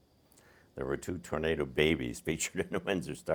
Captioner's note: chuckling